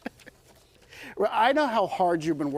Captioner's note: laughter